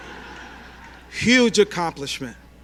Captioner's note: laughter